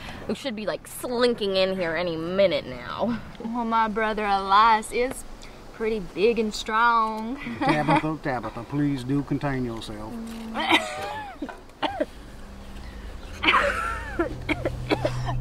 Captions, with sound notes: Who should be like slinking in here any minute now Well, my brother Elias is pretty big and strong Tabitha, Tabitha. Please do contain yourself (Coughs)